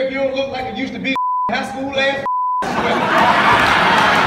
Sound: laughter

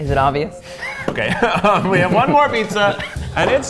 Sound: laughing

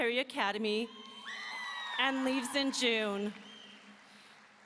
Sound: audience cheering

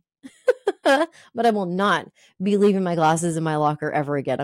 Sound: laughs

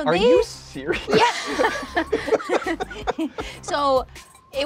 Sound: all laughing

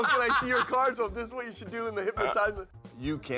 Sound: laugh

